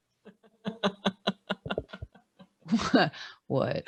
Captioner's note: laughing